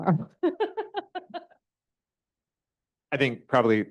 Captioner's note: laughter